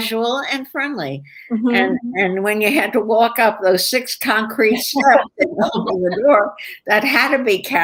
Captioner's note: laughter